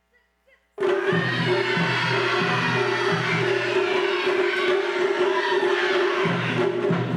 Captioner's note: instrumentalists shouting